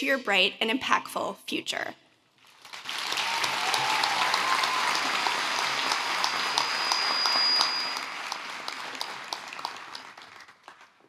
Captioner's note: applause